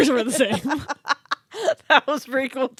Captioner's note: laughing